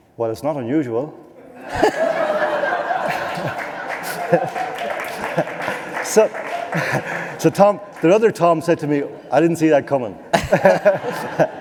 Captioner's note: laughter